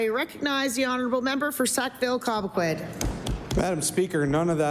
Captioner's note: applause